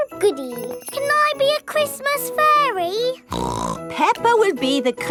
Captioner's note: snorts